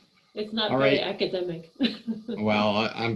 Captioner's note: laughing